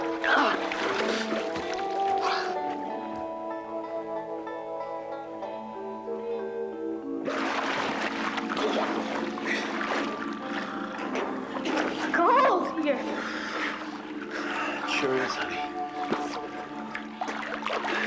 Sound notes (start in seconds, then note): 0.0 water splashing; 0.0 intense music; 7.6 water splashing